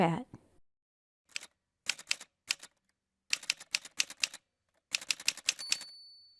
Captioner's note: typewriter sounds